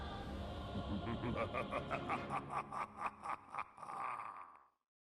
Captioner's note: crazy evil laugh